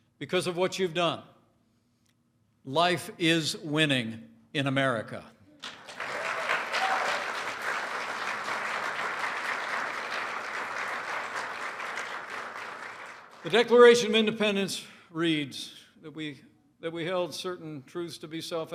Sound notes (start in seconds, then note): 5.6 applause